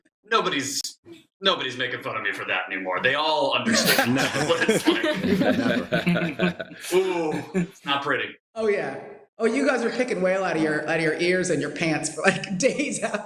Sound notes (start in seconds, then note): 3.7 chuckling